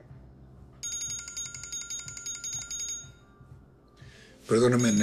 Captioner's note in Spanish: Timbre de teléfono